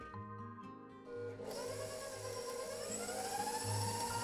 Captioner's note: whirring